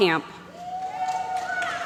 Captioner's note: applause